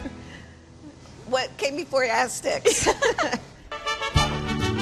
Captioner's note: laughter